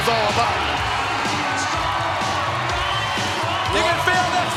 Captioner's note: audience cheering